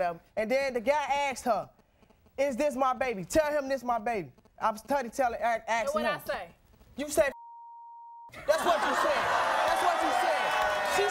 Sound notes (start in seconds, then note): 7.3 beeping; 8.3 audience laughing